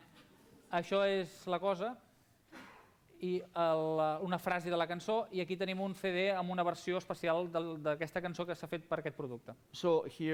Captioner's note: non-english speech